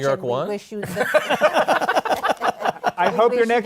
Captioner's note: laughter